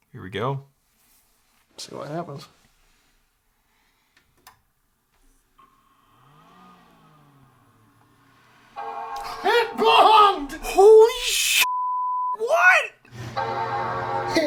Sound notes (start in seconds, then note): 8.8 computer chimes